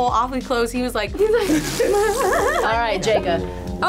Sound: laughs

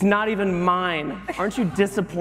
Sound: laughter

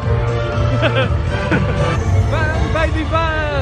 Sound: laughs

